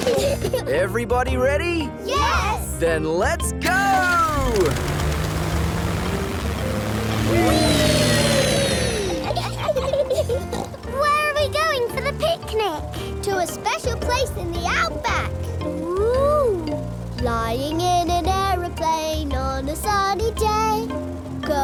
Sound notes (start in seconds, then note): 0.0 children giggle; 8.9 laughs and snorts